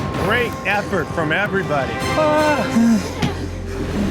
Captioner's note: whimpers